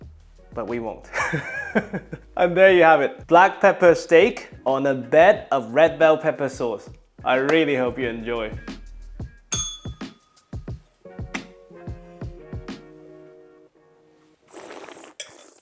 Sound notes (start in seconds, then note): 1.1 laughs; 9.5 bell rings; 14.4 slurps